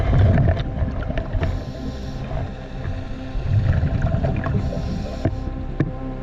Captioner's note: underwater sounds continue